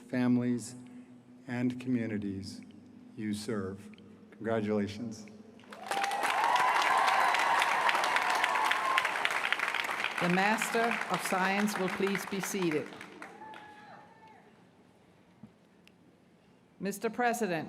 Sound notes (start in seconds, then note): 8.8 cheers & applause